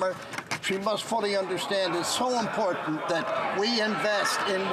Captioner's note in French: voix de l'interprète